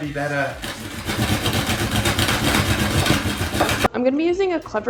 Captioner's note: crunching